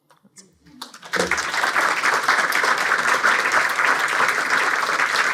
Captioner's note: audience applauding